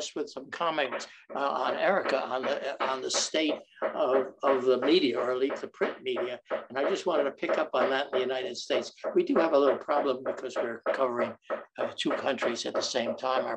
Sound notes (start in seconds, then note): 1.8 someone knocking object; 4.2 someone knocking object